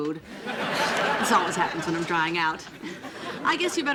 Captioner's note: sighing